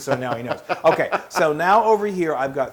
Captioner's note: laugh